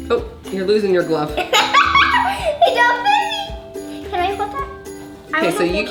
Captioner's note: giggles